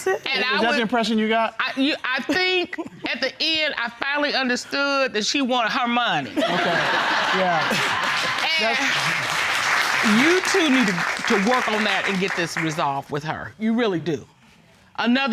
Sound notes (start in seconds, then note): 6.3 laughter